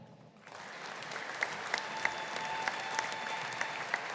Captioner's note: audience applauding